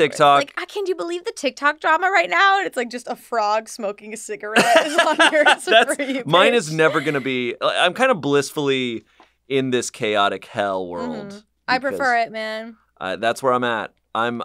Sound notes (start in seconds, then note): 4.5 laugh